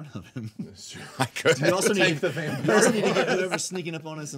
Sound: group murmuring

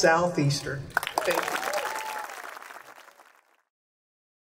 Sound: crowd applause

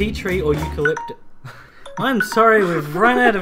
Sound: alarm Sounds

